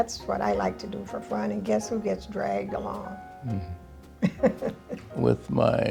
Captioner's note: laughs